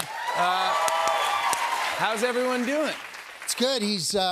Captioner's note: cheers and applause